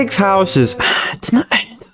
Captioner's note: exhales Oxygen